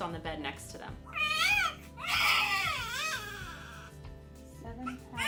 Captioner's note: baby crying